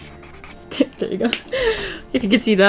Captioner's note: laughs